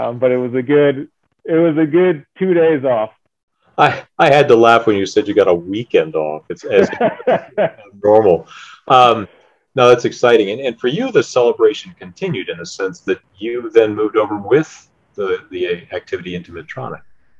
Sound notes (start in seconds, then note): 6.6 laughs